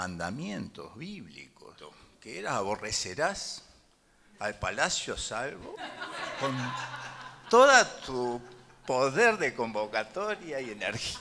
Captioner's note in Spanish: risas